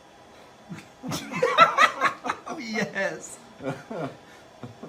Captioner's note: laughs